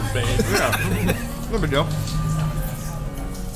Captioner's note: laughter